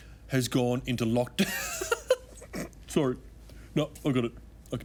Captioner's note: laughs